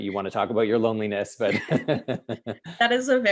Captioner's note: laughter